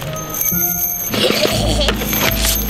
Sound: evil laughing; pouring nails on sidewalk

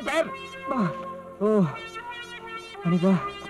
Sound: sighs

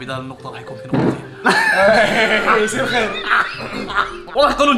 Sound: laughs

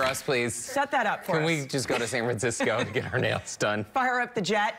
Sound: laughter

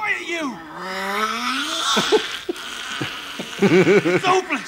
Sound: unholy shrieks

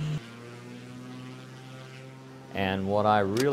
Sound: engine accelerating

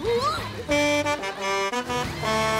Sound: honking

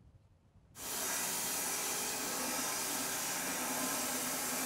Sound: saw running

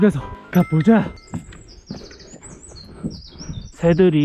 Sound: birds chirping ♬

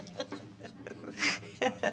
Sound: laughter

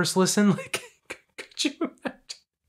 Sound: laughter

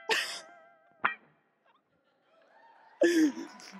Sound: laughing

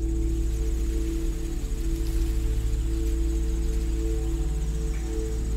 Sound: rustling

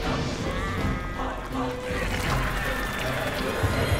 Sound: chanting

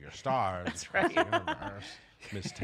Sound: laughter

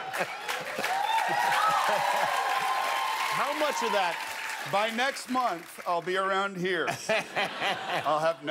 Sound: cheers and applause; laughter

